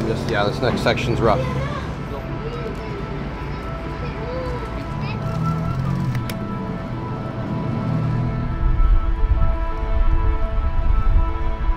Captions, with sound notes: Yeah, this next section's rough. (vehicles whirring) (ambient music)